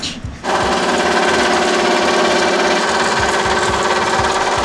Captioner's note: saw rumbling